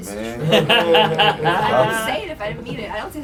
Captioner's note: laughs